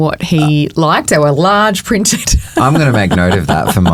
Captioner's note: laughing